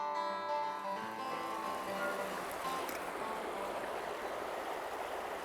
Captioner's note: water rushing